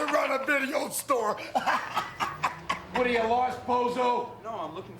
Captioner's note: laugh